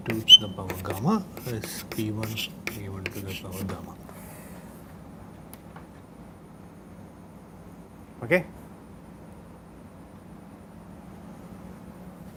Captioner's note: friction